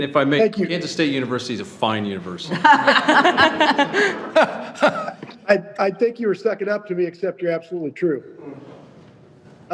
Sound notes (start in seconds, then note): 2.5 all laugh